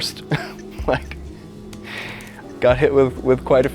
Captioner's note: chuckles